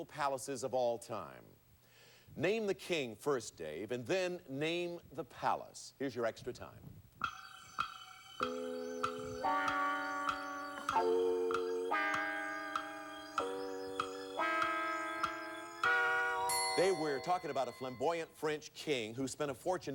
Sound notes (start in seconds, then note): 8.3 clock ticking